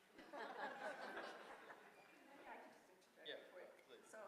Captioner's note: audience laughing